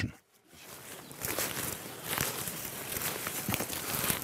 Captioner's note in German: Rascheln